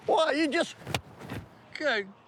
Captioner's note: clapping